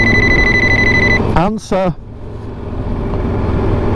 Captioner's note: phone Rings